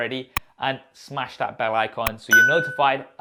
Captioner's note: bell dings